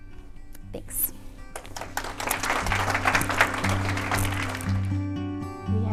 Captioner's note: applause